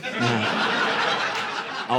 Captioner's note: laughter